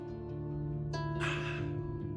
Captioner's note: sigh